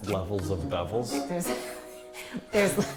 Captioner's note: laughter